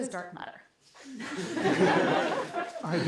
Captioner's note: laughter